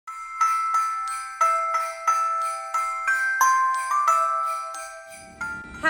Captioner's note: sleigh Bell Jingle